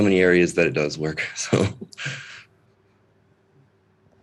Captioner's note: laughs